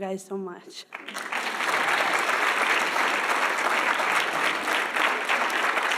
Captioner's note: audience applauding